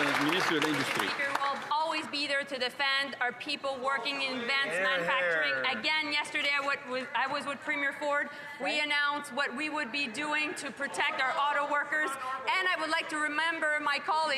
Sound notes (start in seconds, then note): 2.3 cheering and Applause